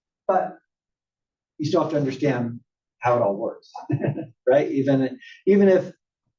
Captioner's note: laugh